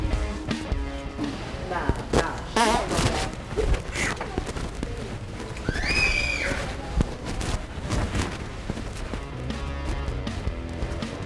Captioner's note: fart noise